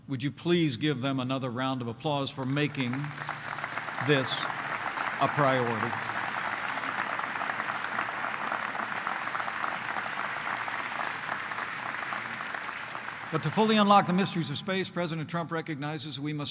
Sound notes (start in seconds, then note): 5.9 applause